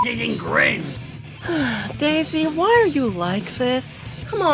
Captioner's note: sigh